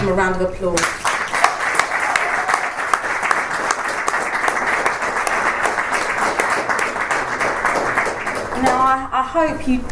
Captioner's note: audience applauds